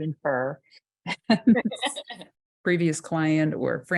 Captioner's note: laughing